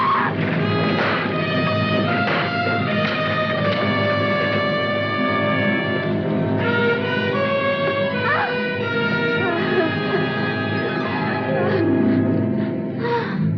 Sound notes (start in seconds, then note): 7.3 breathing heavily